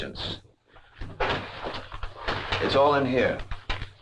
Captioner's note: envelope rustling